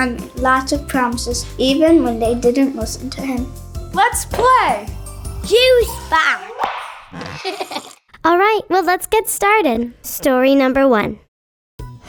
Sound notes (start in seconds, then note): 7.1 child laughs